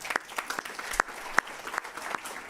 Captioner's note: applause